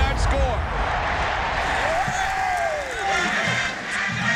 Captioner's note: cheering